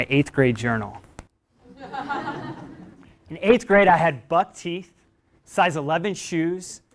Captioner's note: laugh